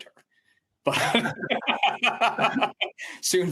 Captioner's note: laughter